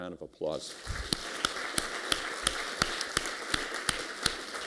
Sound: applause

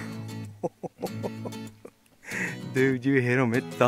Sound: laughing

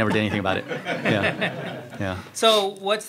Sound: crowd laughs

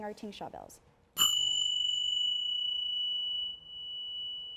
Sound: bells

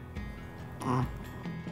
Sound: grunt sounds

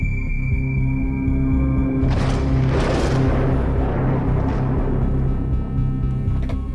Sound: thunder and lightning

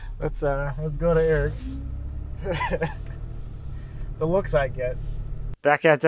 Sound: laughs

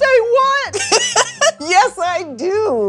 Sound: laughs

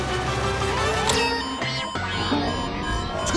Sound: beeping

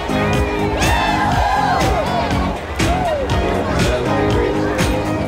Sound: crowd

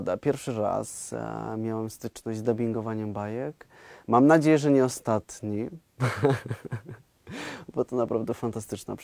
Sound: laughing

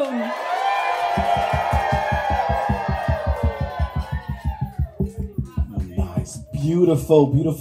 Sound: cheers

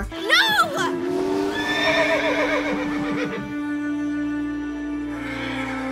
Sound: horse whinnying

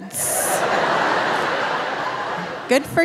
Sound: audience laughing

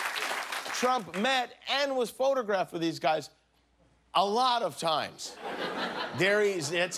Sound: cheers and applause

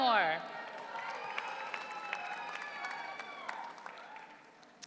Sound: audience cheering

